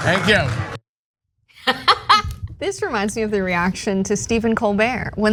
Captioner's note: laugh